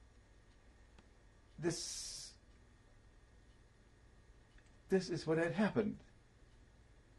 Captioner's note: pauses for 3 seconds